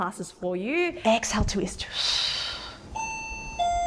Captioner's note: exhales; doorbell rings